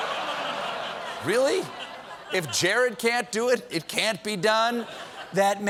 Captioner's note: laughter